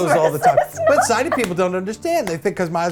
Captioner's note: cracks up